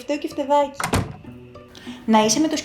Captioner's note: door shut